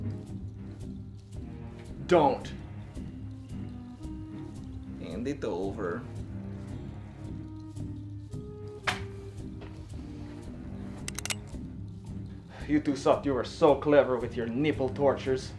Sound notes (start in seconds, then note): 11.0 cocks gun